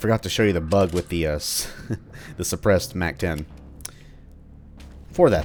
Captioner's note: chuckles